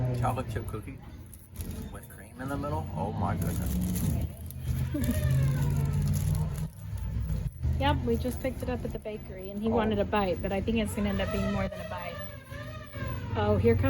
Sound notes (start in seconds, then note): 4.5 siren in background; 12.5 siren heard in background